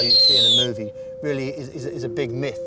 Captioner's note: screech